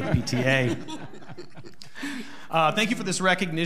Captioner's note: audience laughing